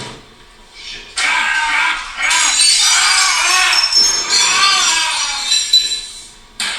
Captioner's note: Manny yelling; dishes breaking